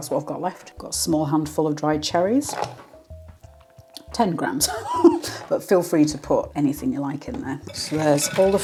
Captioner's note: laugh